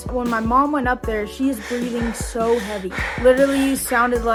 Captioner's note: person panting